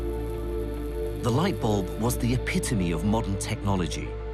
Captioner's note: voiceover